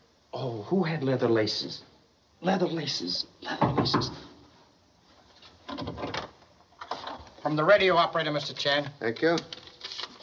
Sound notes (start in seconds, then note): 3.6 knocking